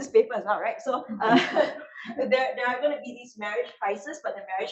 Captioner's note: laughs